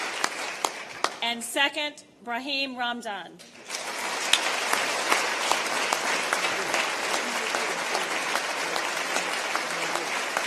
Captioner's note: applause